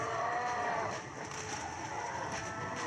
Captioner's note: zombie screams